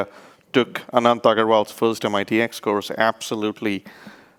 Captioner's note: speaks rapidly